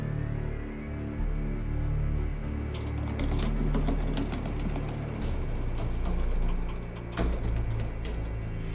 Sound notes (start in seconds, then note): 2.7 loud keyboard tapping